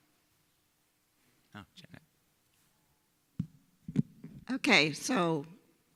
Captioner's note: speaking faintly